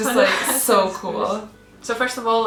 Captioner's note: mutters